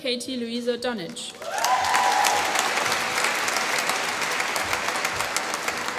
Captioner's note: applause